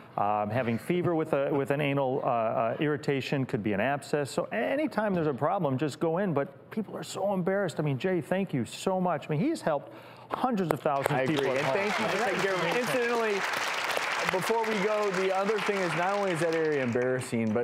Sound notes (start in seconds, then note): 10.9 applause